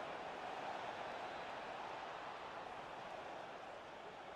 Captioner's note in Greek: χειροκρότημα